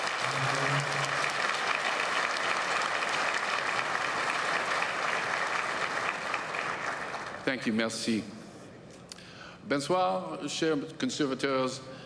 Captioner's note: applause